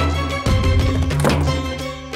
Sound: door closing

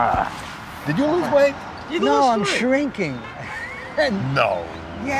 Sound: chuckles

